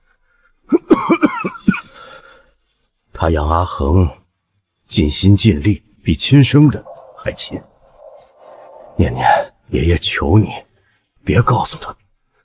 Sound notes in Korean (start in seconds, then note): 0.8 콜록콜록